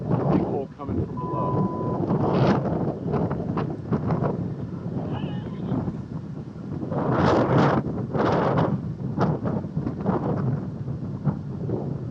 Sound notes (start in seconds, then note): 1.1 1:30 PM CDT beep